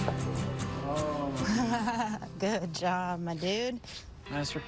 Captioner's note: laughing